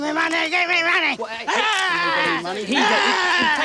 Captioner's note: growling